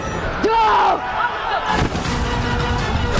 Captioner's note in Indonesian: berteriak